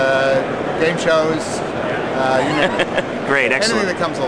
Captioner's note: laughs